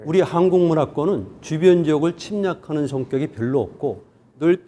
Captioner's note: speaking in Korean